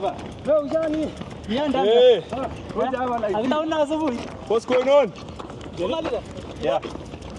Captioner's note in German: Spricht Swahili